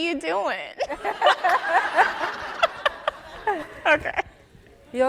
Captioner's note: audience laughing